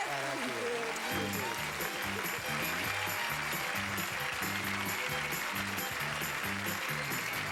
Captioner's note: audience applauding